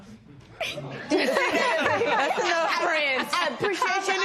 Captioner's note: laughter